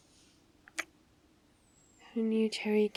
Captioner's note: kiss